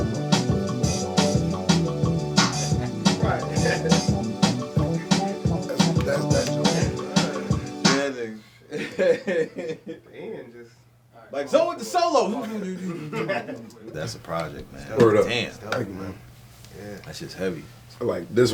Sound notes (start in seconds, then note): 2.5 laughing; 10.1 laughs